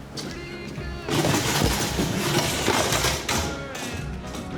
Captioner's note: stool clattering